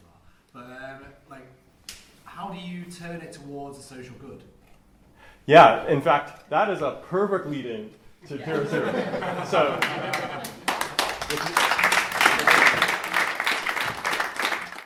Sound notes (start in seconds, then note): 8.4 laughter & applause